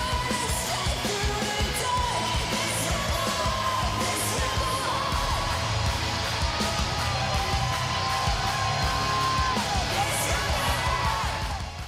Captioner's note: cheers and applause